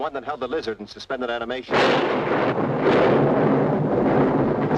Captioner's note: thunderclap crashes